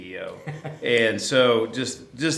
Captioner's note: laughter